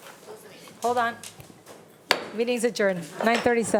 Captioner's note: gavel thuds